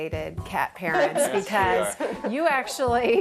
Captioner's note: laughs